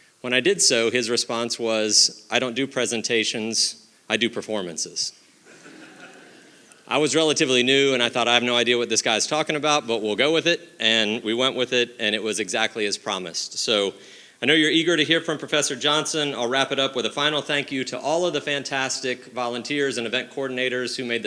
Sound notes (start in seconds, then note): 5.5 audience laughing